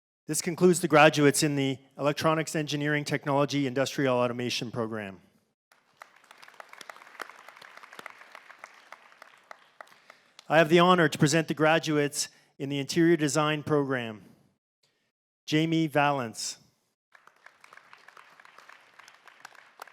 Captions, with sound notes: This concludes the graduates in the Electronics Engineering Technology Industrial Automation Program. [Applause] I have the honour to present the graduates in the Interior Design program.